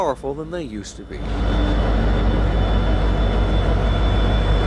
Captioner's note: train hums